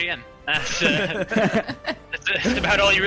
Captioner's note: laughter